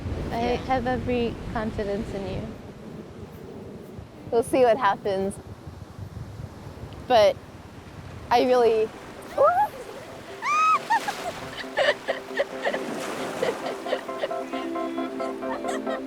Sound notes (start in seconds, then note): 10.4 playful scream; 10.4 both laugh; 13.8 uplifting music